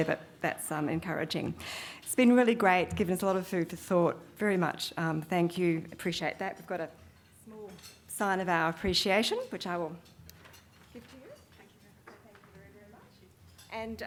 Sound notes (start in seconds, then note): none